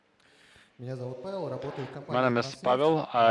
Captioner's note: speaking russian